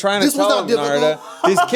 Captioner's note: laughing